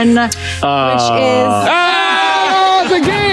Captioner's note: group yelling